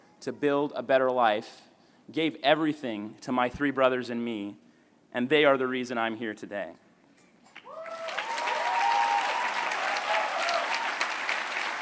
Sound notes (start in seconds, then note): 7.6 applause